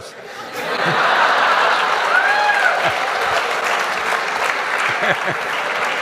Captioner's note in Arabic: ضحك وتصفيق